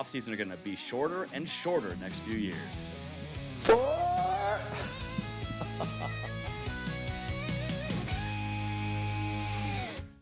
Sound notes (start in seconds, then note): 3.8 laughs; 4.8 rock music